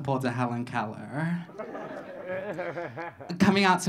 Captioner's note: audience laughing